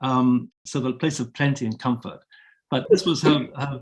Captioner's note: chuckling